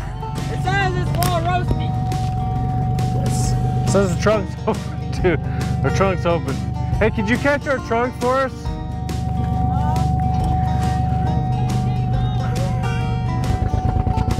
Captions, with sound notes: (indistinct chatters) The trunk is open hey could you close the trunk for us. (upbeat music)